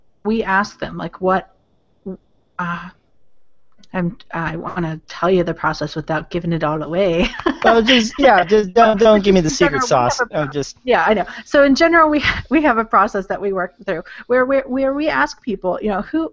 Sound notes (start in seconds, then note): 7.2 laughs